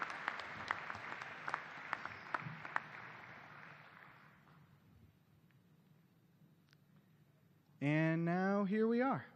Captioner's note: cheers and applause